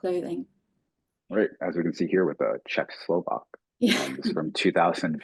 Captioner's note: chuckling